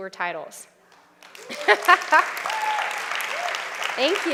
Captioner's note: applause